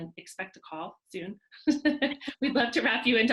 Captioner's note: chuckling